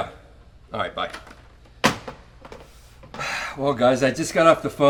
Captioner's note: phone receiver thuds; sighs